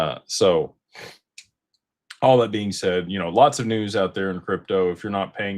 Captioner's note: snorts